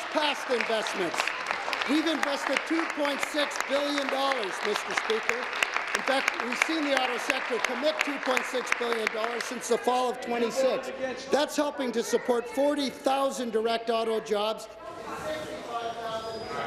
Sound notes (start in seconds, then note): 4.4 applause